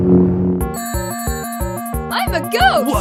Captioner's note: funky music; bell ringing